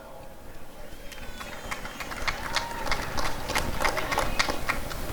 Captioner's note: applause and cheering